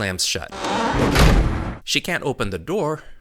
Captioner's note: exploding